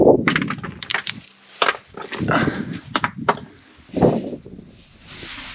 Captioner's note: rocks crashing and wind blowing